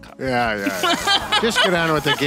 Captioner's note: laughing